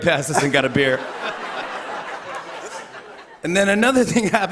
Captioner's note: laughter